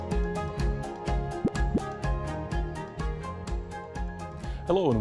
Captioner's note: graphic pops